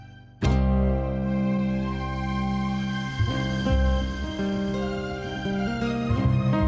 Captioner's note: gentle music; helicopter whooshing